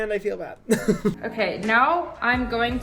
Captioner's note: laughs